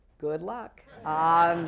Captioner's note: laughter